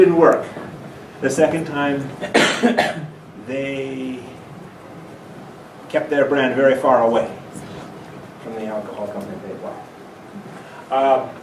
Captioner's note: laughing